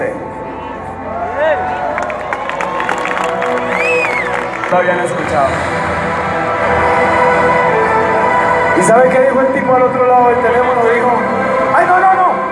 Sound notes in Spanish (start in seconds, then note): 1.8 aplausos